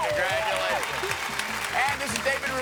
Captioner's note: audience cheers